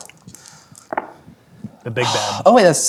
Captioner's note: dice rolling